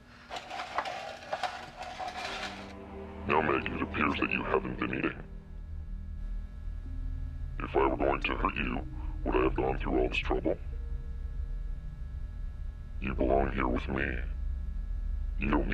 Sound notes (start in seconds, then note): 0.0 tray dragging